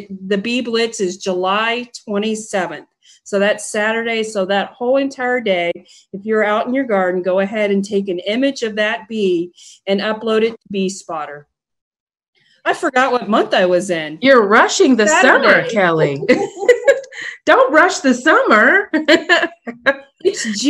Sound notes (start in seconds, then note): 15.1 laughs; 19.0 laughs